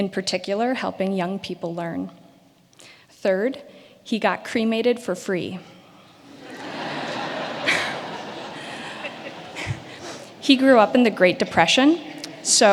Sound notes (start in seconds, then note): 6.1 audience laughing